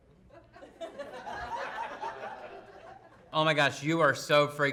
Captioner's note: audience laughing